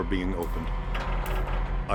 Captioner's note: creaking